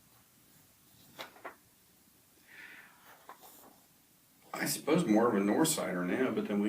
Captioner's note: sighs